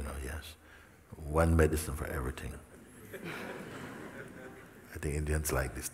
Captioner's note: laughter